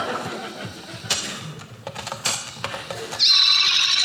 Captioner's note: tape player clicks; tape rewinds